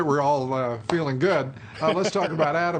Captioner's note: laughter